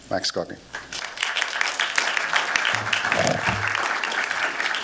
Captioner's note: applause